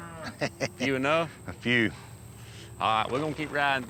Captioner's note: chuckles